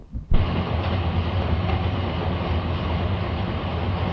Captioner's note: engine rumbling